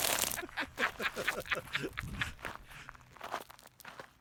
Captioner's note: both laugh